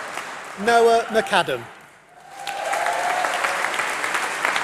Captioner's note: applause